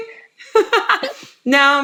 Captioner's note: laughs